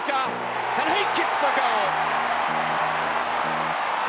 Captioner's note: crowd cheering